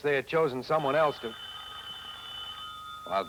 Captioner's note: telephone rings